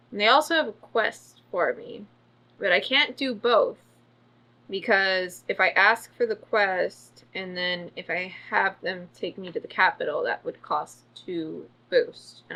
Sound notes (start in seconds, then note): none